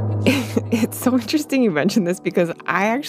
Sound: laughs

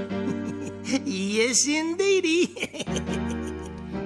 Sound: laughing

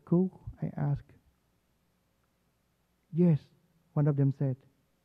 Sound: none

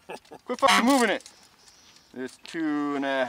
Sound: chuckles; horn honks

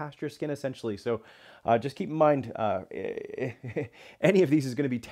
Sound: laughs

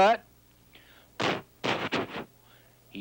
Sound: imitates thudding

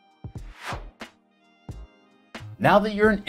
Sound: upbeat music; whooshing

